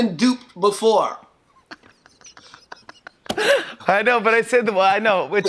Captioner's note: laughing